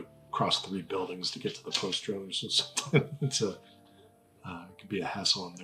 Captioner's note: laughs